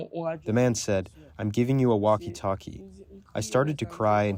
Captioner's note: through translator